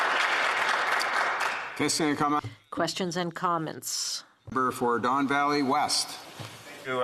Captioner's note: applause